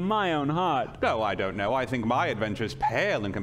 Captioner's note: laughing